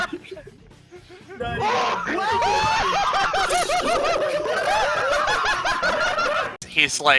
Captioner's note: everyone collectively losing it